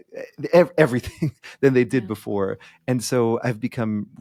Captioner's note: chuckling